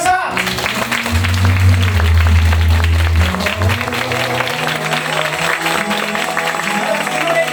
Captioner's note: applause